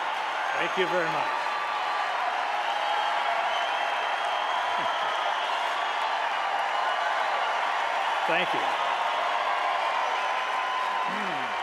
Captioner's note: applause